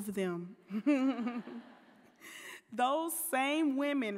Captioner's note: laughing